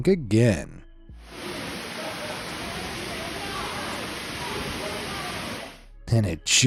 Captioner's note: water gushing; bystanders chattering